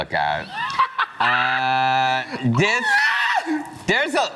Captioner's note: laughs